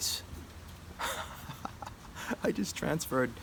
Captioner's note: laughs